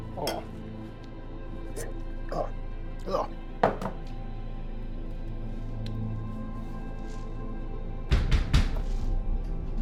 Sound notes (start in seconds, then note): 8.1 knocking